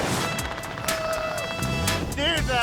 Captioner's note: yells